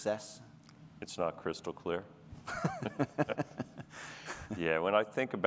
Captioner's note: laughter